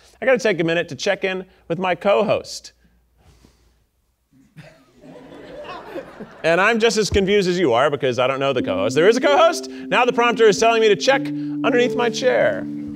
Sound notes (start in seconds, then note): 4.6 audience laughing